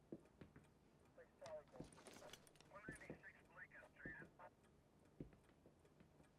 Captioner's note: chattering from police radio